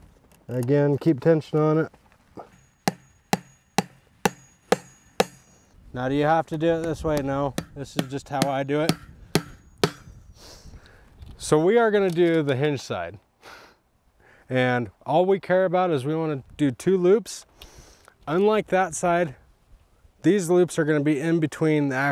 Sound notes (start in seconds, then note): 2.4 hammer clanging